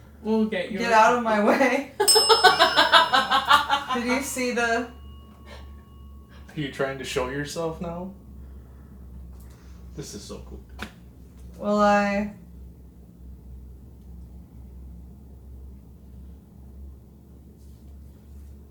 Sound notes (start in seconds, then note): 2.0 investigators laughing; 3.8 bell dings